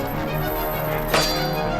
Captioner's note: metallic thwack